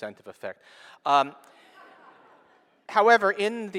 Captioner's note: laughing